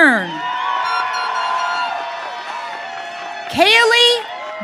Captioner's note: audience cheering